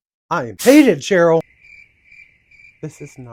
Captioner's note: crickets